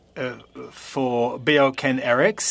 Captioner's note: speaking FRENCH